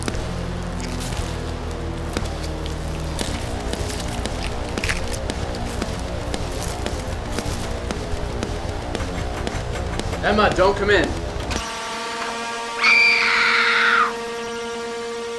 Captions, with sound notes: *squelching* *bone breaking* *doorknob rattling* Emma don't come in!! *screaming in shock*